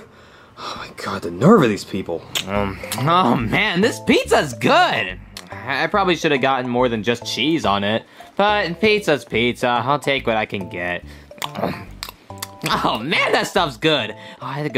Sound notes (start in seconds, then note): 2.0 munching; 11.4 munching